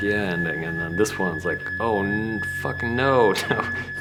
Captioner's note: laughs